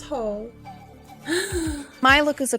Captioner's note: gasp